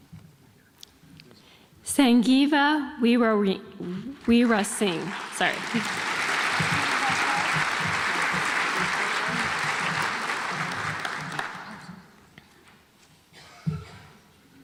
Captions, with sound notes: Sanjeeva Weerasinghe (audience applauds)